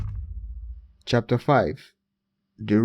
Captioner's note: thud